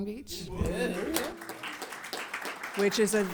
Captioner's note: audience cheers and applauds